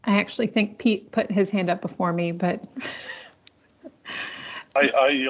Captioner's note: laughs